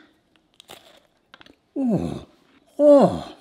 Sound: munching

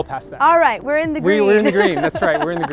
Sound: laughs

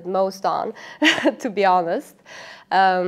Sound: interviewee giggling

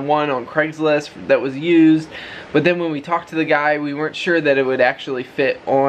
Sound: none

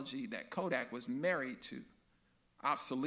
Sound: none

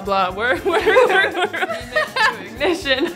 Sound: laughter

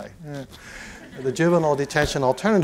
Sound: laughter

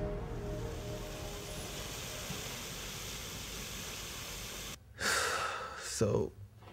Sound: water fountain

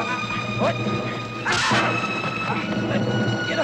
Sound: machine crunching

